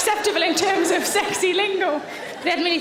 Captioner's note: audience laughing